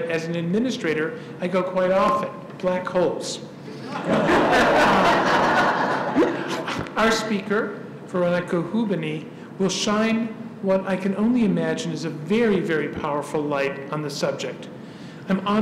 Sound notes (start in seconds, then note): 3.8 laugh